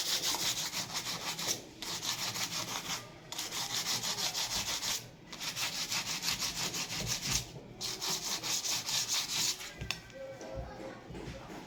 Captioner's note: sound of sanding